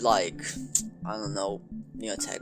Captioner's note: lip smack